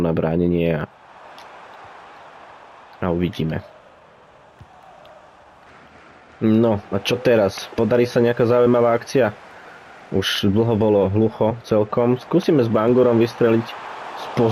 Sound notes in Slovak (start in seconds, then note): 4.7 Potlesk